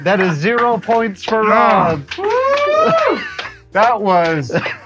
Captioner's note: clapping